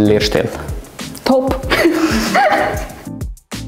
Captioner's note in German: Lachen